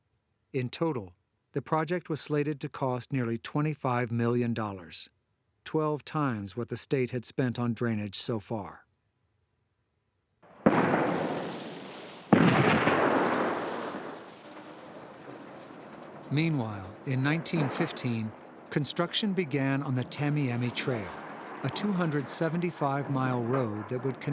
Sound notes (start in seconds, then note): 10.9 explosions banging